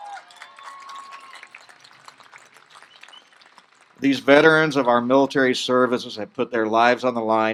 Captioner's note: applause